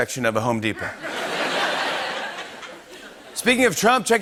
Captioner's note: laughter